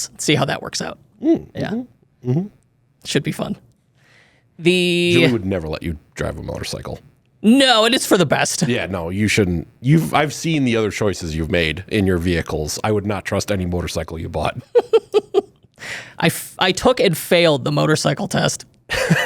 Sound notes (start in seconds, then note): 14.6 chuckles